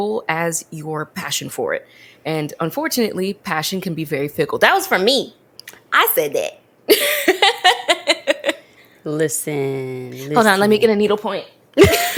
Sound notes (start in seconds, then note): 7.0 laughs